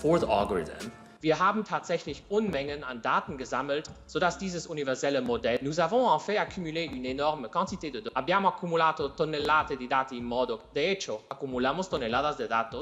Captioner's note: non-english